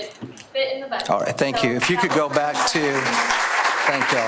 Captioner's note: audience applause